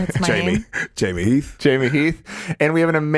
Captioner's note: chuckles